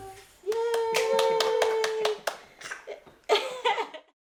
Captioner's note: cheering